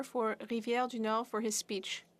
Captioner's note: speaking French